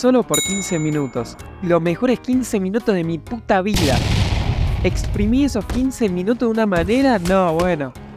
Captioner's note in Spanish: explosion